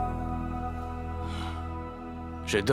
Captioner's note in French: Paul soupire